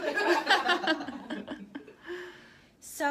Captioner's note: laughter